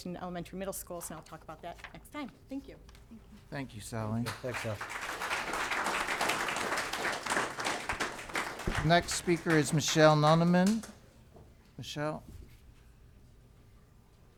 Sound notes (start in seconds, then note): 4.1 applause